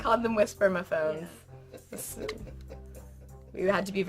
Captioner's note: insidious chuckle